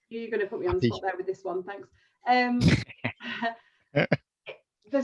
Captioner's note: laughs